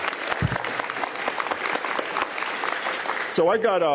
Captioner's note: applause